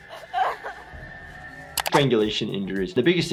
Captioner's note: whimpering